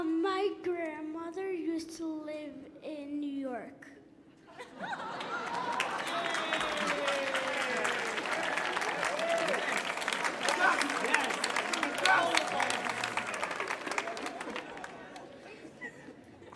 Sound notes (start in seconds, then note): 4.8 cheering